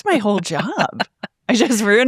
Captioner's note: laughing